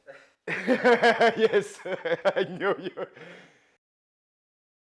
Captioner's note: laughing